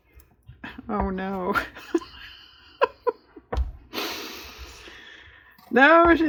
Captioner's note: laughs